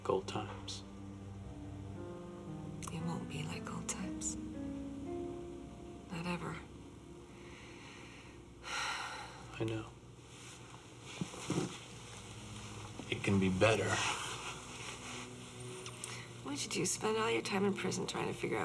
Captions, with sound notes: Like old times. - It won't be like old times. Not ever. (sighs) - I know. It can be better. - What did you do, spend all your time in prison